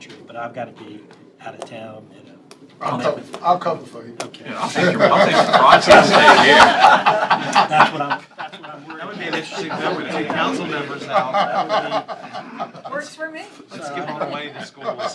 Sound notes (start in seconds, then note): 6.8 laughter